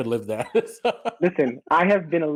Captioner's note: soft laughter